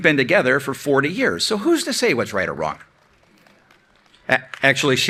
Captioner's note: clapping